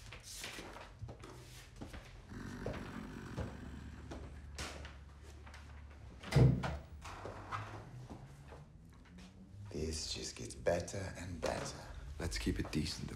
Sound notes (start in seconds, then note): 2.2 growls; 6.2 door creaks